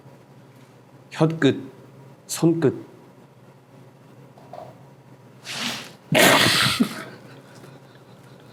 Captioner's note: giggles